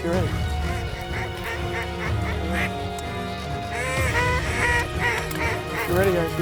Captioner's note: duck calls